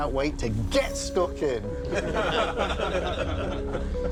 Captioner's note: laughter